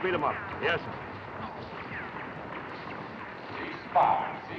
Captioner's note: guns firing; voice On Loudspeaker